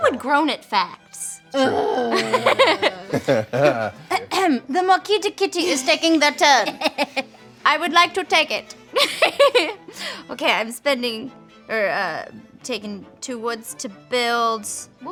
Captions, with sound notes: Who would groan at facts? (groans) (laughing) The Marquise de kitty is taking their turn. I would like to take it (laughs). Okay, I'm spending or taking two woods to build.